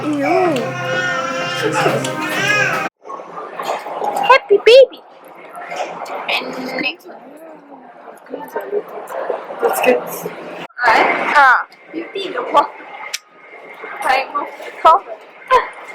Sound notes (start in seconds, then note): 4.6 annoying high-pitched voice, I know